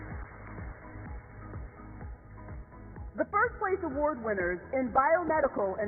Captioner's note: applause